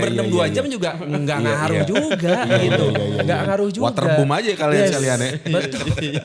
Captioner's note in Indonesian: tertawa